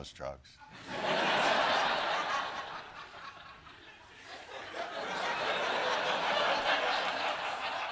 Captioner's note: laughter